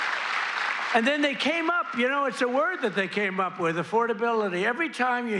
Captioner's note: applause